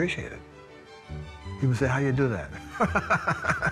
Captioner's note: laughing